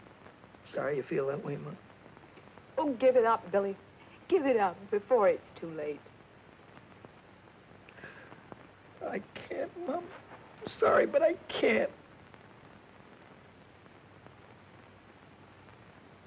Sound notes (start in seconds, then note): none